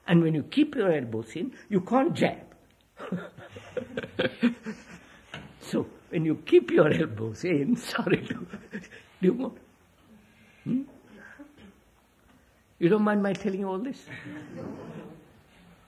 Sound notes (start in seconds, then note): 3.0 laughs